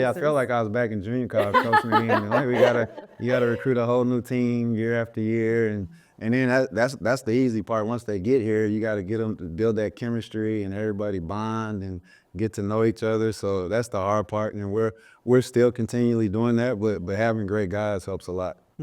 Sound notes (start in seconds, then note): 1.3 laughing